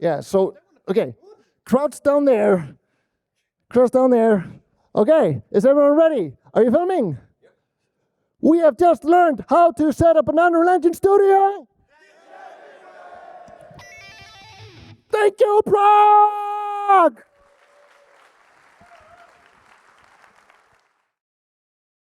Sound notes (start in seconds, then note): 13.7 guitar riff; 17.2 applause